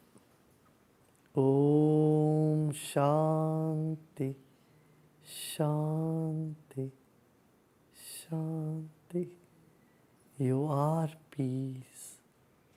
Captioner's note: non-english speech